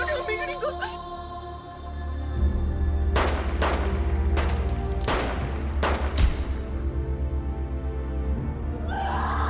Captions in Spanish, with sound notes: - !NO, NO, NO, MI GRINGO! [Disparos]